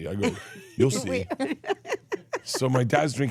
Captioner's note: laugh